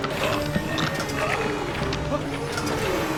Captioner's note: moan